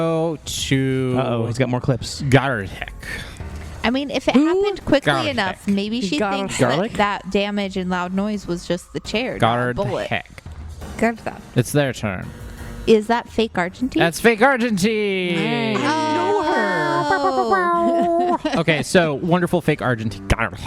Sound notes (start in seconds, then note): 13.4 annunciating more clearly